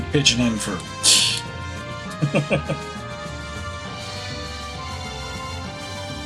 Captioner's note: laughs